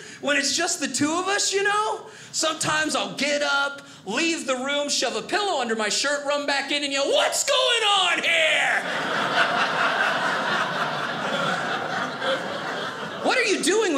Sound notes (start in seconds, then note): 8.6 audience laughing